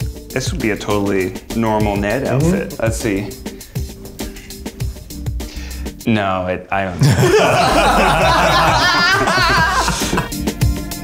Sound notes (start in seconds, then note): 7.0 laughter